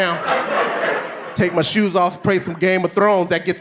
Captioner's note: audience laughing